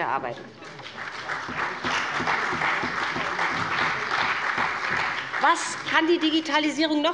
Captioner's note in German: Beifall beiBÜNDNIS 90/DIE GRÜNEN und der CDU